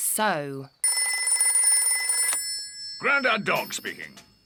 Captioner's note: rings